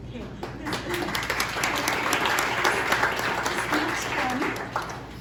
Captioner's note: applause